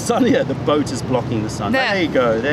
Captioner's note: laughter